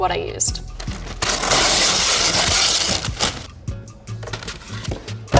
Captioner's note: paper ripping